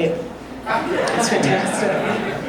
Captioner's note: audience laughing